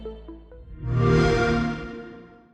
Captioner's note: xbox sound